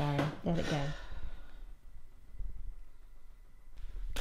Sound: sighing

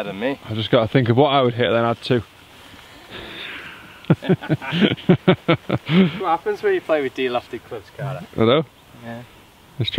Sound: laughs

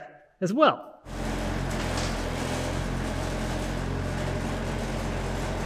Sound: skid steer engine whirring

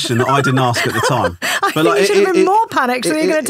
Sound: laughing

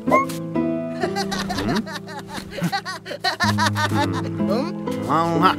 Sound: laughing

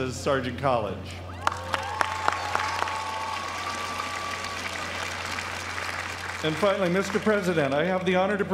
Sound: applause

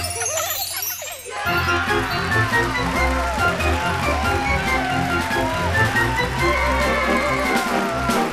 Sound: cheering

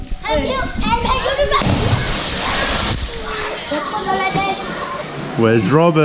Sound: children yelling; water splashing

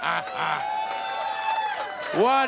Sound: playful grunting; audience cheering

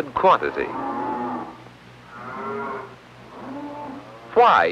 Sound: mooing

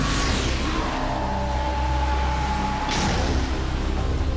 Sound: roaring

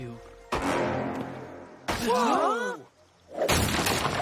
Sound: wood cracking and smashing

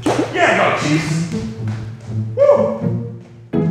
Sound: shoes clicking

